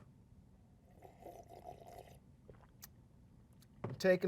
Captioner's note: sipping